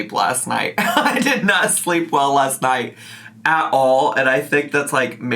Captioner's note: laughs